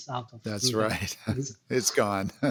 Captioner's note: laughs